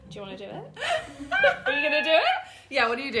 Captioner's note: laughing